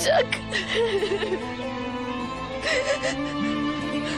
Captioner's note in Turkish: ağlıyor